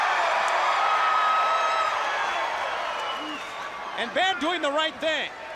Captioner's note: crowd cheering